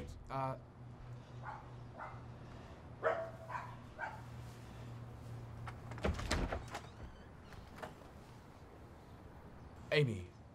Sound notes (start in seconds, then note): 3.0 dog barking inside